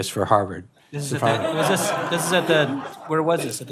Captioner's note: laughter